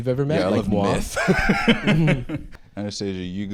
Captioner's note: laughs